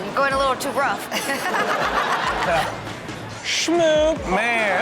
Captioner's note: laughs